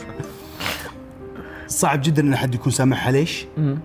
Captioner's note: chuckles